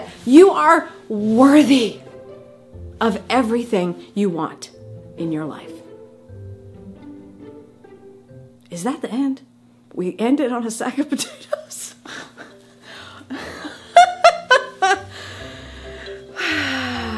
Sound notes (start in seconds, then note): 13.3 laughs